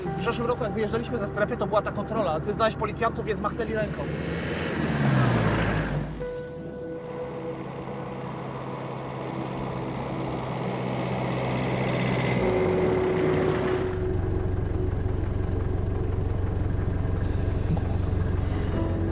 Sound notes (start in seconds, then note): 4.9 passing traffic; 11.7 engine roaring